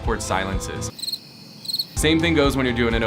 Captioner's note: crickets chirping